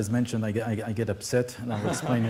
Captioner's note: laughter